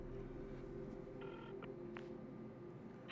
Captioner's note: clicks